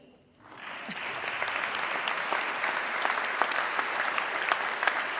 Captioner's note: audience clapping